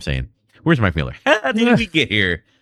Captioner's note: uh